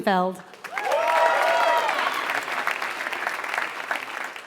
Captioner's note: applause